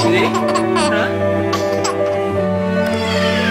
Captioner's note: laugh